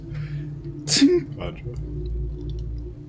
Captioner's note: click